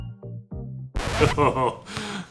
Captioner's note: record scratches; chuckles